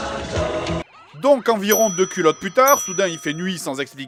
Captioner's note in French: ding